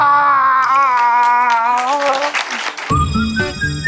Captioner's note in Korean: 오열 엔딩